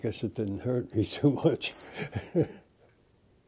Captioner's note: laughter